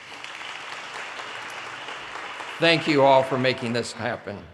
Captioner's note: audience applause